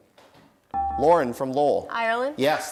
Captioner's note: dinging